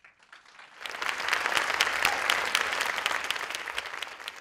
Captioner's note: crowd applauding